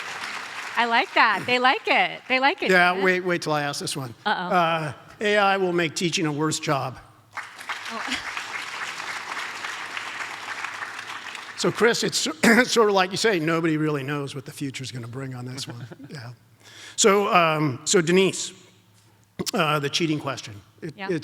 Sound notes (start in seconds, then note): 7.3 audience applauds; 7.9 laughs